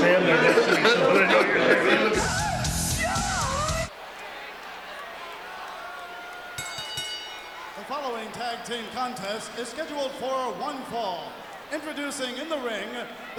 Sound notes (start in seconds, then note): 4.1 audience chattering; 6.5 bell rings